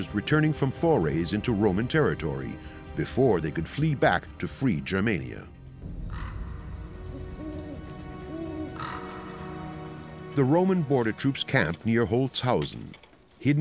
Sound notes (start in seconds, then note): 6.0 crow cawing; 6.0 owl hooting